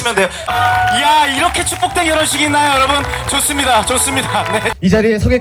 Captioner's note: starting with a round of applause